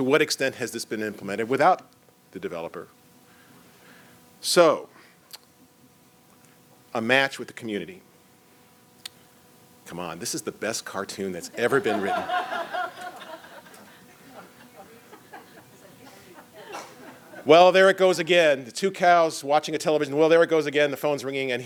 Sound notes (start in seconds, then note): 4.3 pause; 13.9 laughter